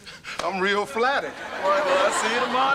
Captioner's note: audience laughter